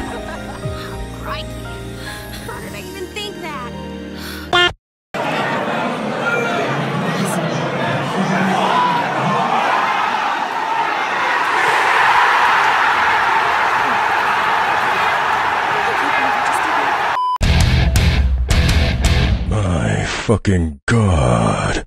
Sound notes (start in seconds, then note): 7.5 crowd noise; 11.7 crowd goes wild; 14.8 crowd goes wild